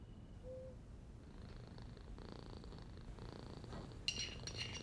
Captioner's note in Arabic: خرخرة القطة; طقطقة الأطباق